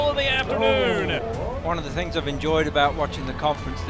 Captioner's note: voiceover